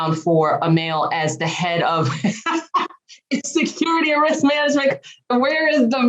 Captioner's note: laughs